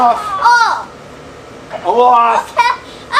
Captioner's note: assistant exclaims; assistant yells